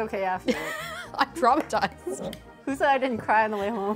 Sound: laughs

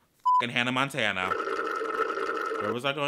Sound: sips loudly

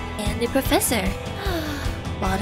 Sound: sigh

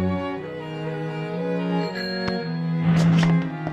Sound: bike bell ringing

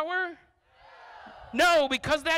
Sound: crowd

